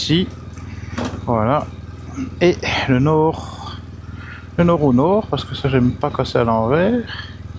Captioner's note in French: raclement de gorge